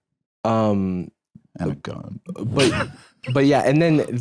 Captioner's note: laughs